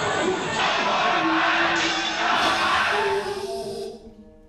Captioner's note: crowd chattering